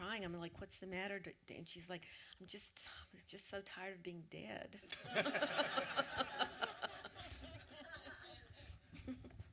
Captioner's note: audience laughter